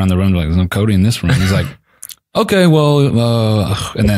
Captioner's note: laughs